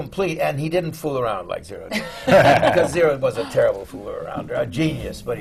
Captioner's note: laughter